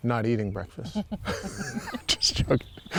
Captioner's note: chuckles